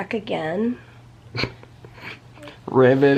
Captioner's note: chuckles